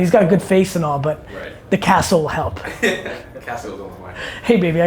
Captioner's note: laughing